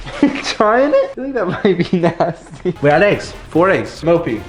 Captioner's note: chuckles